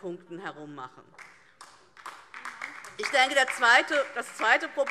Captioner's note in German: Beifall DIE LINKE und vereinzelt SPD